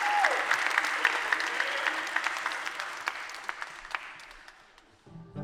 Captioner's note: applause